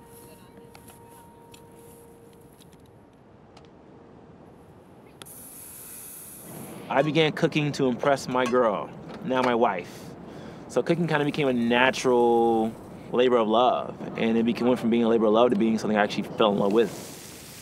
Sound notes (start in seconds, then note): 0.0 faint chatter; 5.2 water sizzling